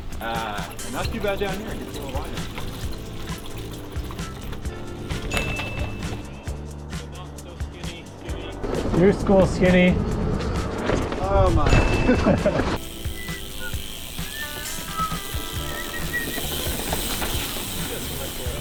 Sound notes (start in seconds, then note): 2.9 lively music; 4.8 wheels whooshing; 10.2 wheels whooshing; 12.0 laughing; 12.4 wheels whooshing; 13.1 wheels whizzing